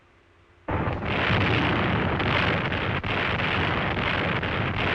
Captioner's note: loud explosions